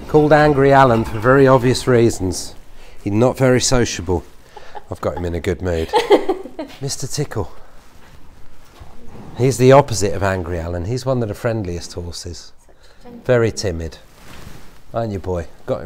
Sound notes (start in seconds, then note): 5.9 assistant laughs